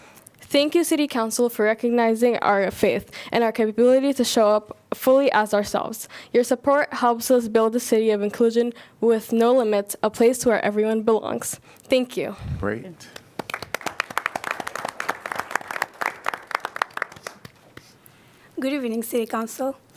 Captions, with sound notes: Thank you, City Council for recognizing our faith and our capability to show up fully as ourselves. Your support helps us build the city of inclusion with no limits, a place where everyone belongs. Thank you. Great. [APPLAUSE] Good evening, City Council.